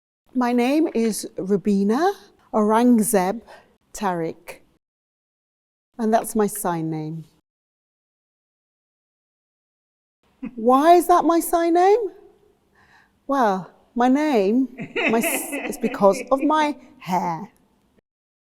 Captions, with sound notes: My name is Rubbena Aurangzeb-Tariq, and that's my sign name. Why is that my sign name? Well, my name... [Person laughs] is because of my hair.